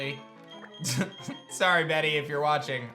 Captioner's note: chuckles